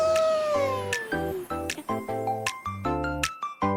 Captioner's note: laughing